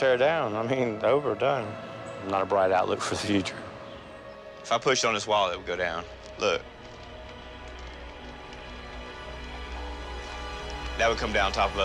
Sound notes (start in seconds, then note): 5.7 creaking